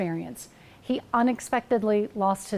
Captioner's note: none